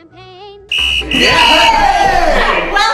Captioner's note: loud whistling